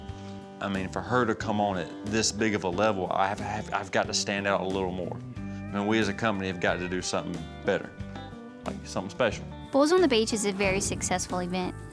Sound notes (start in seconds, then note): none